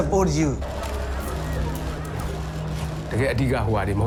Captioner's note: sounds of photos being taken